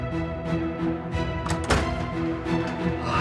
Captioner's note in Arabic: يغلق الباب; تنهدات